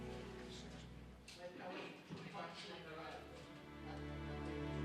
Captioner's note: officers chattering